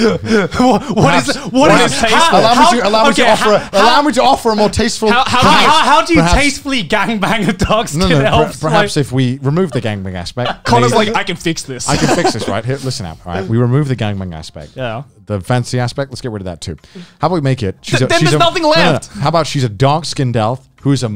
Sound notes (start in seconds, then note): 0.0 laughs; 8.0 murmurs